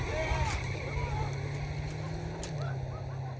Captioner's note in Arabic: يصرخ